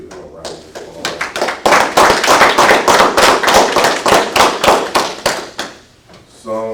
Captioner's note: applause